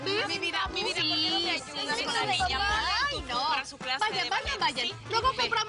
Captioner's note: Hablan al unísono